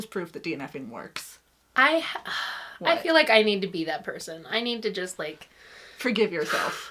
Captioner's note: breathes out